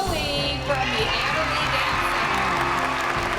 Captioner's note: cheering and applause